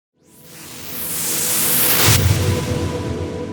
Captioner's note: whooshing